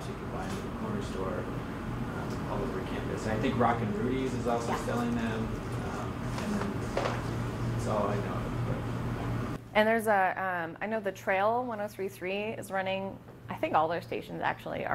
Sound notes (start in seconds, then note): 6.4 murmurs